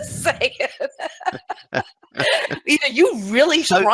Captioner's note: laughs